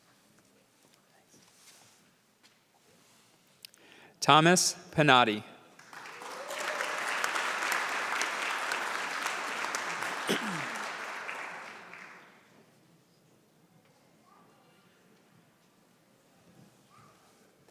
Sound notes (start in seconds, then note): 5.7 applause